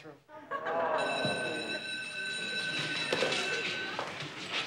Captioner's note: students laughing; bell ringing